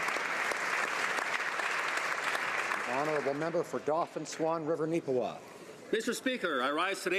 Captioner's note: applause